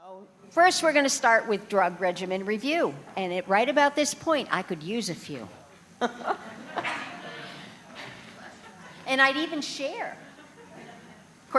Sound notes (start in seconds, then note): 6.0 laughter